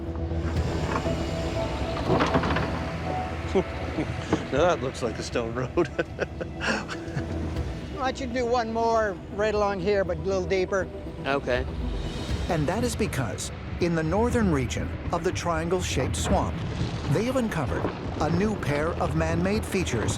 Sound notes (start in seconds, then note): 5.6 laughs